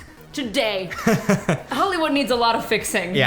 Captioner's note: laughs